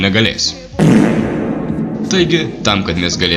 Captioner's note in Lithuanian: bezdalo garsas su reverbu